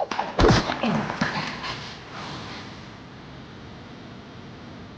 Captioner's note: body thudding